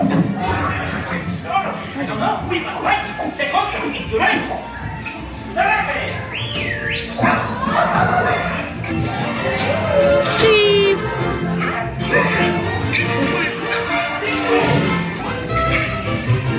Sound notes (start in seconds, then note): 6.2 character whistles; 12.2 energetic music